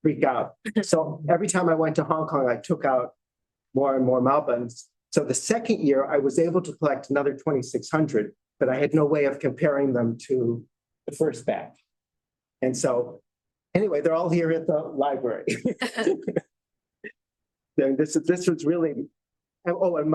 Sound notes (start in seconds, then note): 15.5 laughter